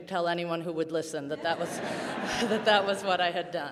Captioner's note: audience laughing